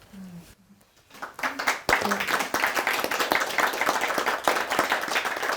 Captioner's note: crowd applauding